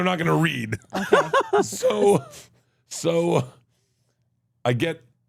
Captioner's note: laughs